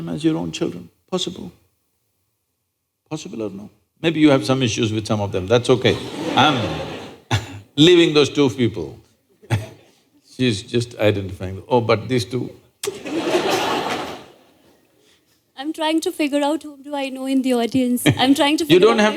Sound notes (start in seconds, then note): 5.7 laughter; 9.4 laughter; 12.8 laughter